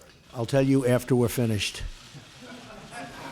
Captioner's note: laughter